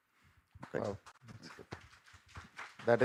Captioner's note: applause